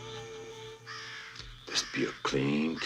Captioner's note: bird cawing